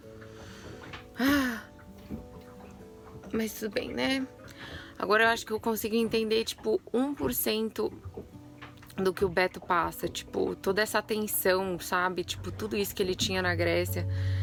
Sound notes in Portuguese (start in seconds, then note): 1.1 suspiro